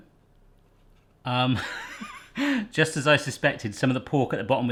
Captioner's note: laughs